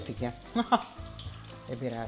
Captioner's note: laughter